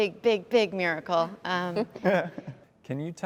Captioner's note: laughter